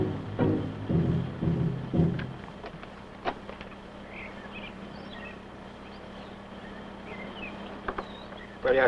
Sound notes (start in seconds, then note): 3.3 birds chirping; 8.0 foreign language